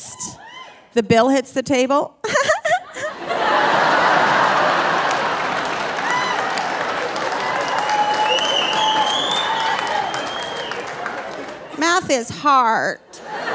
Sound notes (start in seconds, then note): 0.2 audience cheering; 2.3 laughing; 2.3 audience laughing; 5.2 audience cheering and whistling; 13.1 audience laughing